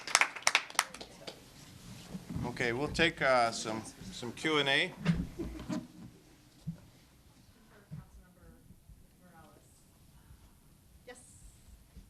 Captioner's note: applause